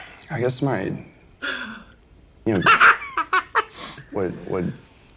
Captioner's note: laughing